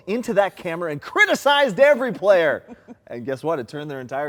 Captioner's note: laughs